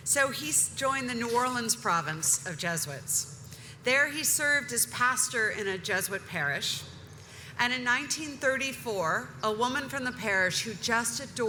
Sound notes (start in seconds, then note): none